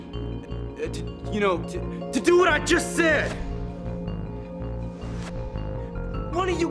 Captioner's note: whooshing sounds